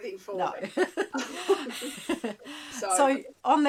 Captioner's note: laughing